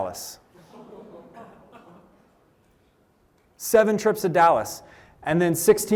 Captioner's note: laughter